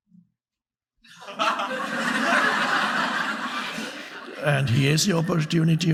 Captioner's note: audience laughing